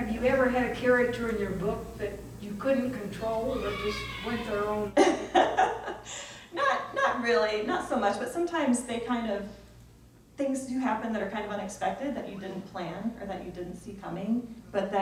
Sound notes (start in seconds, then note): 4.9 laughs